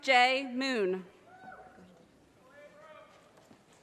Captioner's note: audience cheers